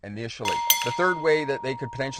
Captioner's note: bell dinging